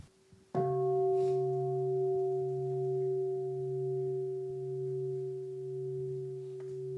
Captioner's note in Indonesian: Bunyi genta